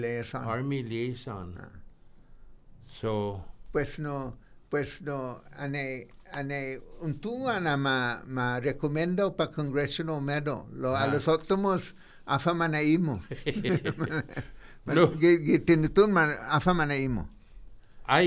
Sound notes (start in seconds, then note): 13.2 laughing